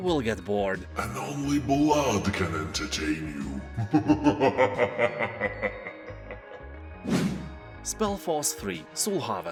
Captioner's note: laughs in demon